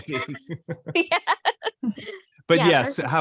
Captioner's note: laughs